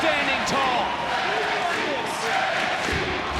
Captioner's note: crowd cheers and chants